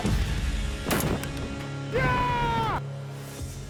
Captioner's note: gun Shot; yelling